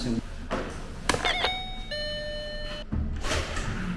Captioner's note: ring ring ring